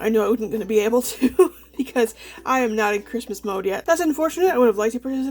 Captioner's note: laughs